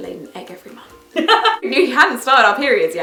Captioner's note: laughs